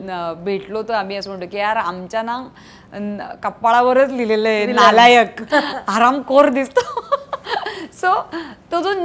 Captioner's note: Chuckles